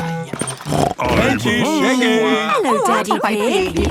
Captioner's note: snort